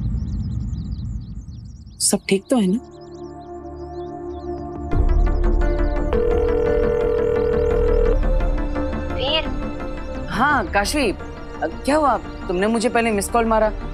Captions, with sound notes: Is everything alright? [suspenseful music plays] [phone ringing] - Veer! - Tell me, Kaashvi! What's wrong? I missed your call.